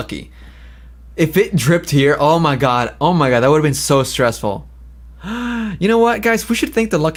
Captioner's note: gasps